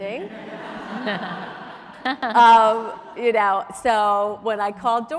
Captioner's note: audience laughs